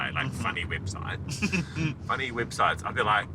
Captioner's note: chuckles